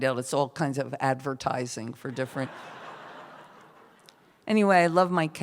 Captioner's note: laughter